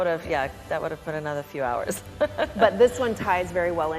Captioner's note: laughs